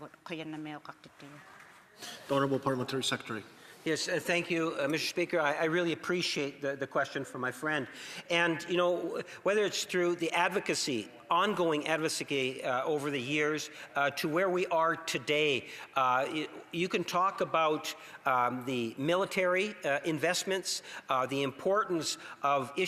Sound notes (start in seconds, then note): 3.2 speaking alternate language; 4.9 speaking Indigenous language